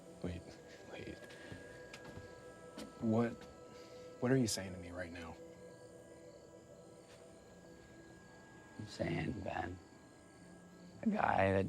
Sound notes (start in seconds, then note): 5.8 crickets chirping; 5.8 tense music